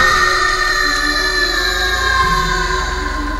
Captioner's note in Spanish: gritos